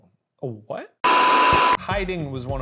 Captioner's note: static hisses